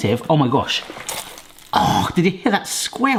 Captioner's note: meat squelching